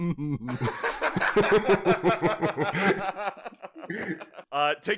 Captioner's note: laughter